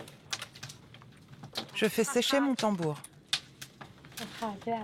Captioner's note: foreign spoken audio